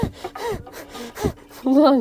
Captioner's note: laughing